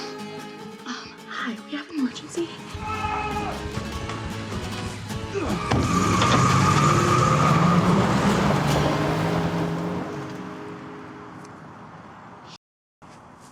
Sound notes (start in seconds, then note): 0.1 sniffles; 2.7 Isaac yells; 4.2 dramatic music; 5.3 Isaac grunts; 5.9 car engine rumbling; 5.9 car tires squealing